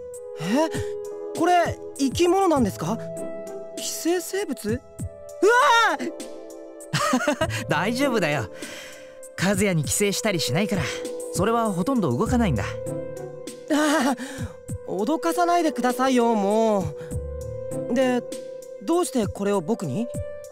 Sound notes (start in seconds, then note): 6.9 laugh; 13.8 sigh